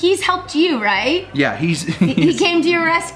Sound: laughs

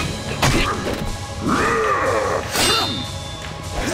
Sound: roaring; grunting

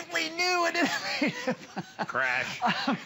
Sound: laughter

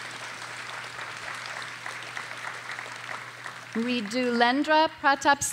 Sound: audience applauding

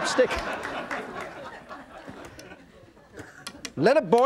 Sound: audience laughing

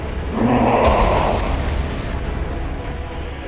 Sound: growls

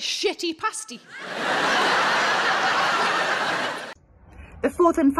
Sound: crowd laugh

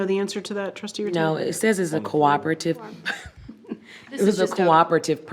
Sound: chuckles

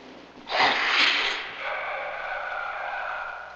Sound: sniffing

